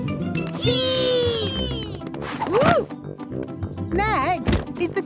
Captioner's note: thumps